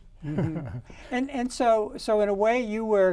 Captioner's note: men laughing